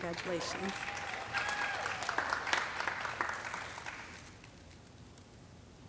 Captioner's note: audience cheering and clapping